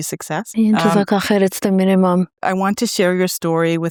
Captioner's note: speaking foreign language